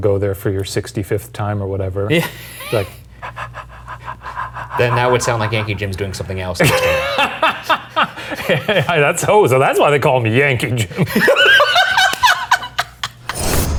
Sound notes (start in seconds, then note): 2.3 exhales repeatedly; 6.9 laughing; 10.8 both laughing; 13.5 dramatic music